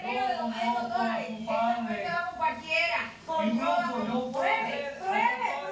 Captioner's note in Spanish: Hablan al unísono